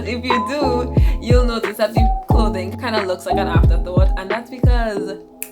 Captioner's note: snaps